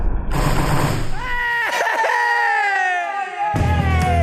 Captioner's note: cheering